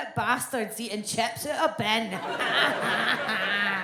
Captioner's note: audience laughs